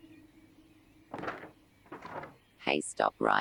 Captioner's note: wings flapping